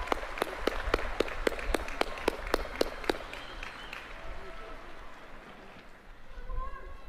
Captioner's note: applause